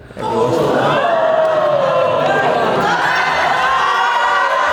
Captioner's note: groups responds